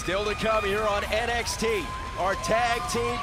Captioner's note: crowd chatter